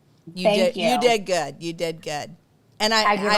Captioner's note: laughs